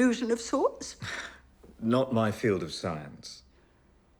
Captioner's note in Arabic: ضحكة مكتومة